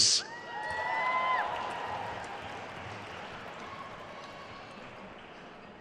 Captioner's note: attendees cheering and applauding